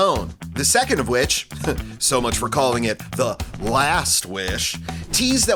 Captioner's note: laughs